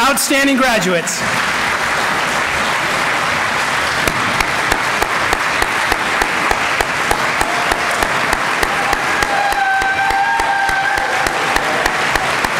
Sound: applause

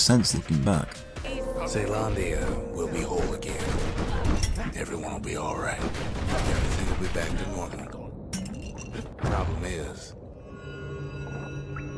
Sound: in-game audio

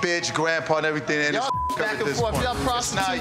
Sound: beep

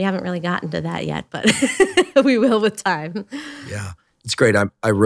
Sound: laughs

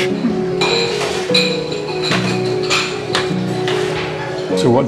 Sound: crockery clinks

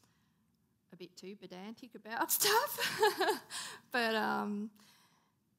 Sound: laughing

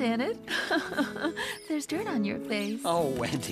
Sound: chuckling

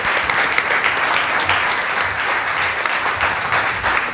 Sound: applause

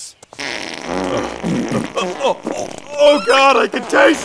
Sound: farting

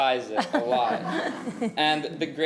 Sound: committee chuckling

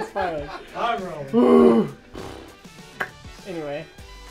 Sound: blows raspberry

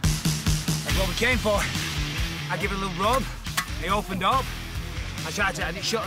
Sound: breathing heavy

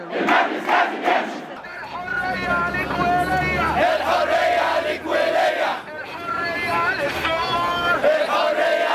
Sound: chants

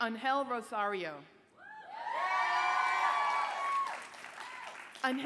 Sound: cheers, applause

